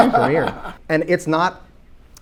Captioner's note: panelists laughing